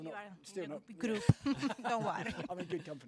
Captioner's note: laugh